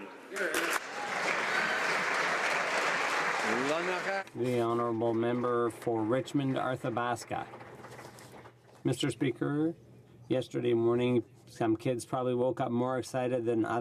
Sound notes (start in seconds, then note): 5.0 applause